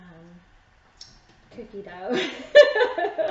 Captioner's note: laughing